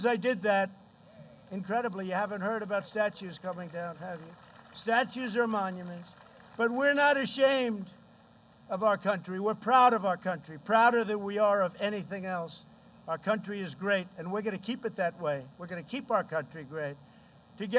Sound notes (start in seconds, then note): 6.0 applause